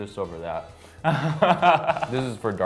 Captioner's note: laughs